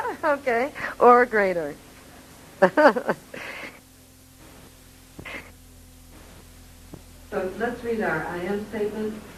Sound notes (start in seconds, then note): 0.0 laughing; 2.6 laughing